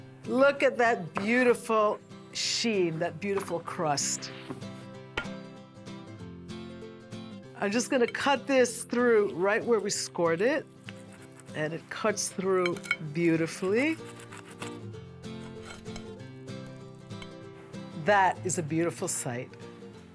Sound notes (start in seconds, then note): 5.2 pie plate hits the table